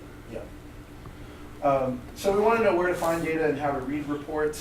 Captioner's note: voiceover